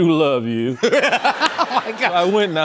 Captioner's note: laughter